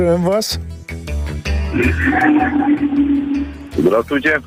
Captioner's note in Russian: звук револьвера